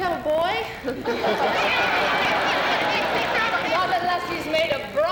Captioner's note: laughter